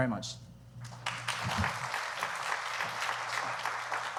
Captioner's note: applause